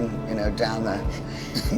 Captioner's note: laughs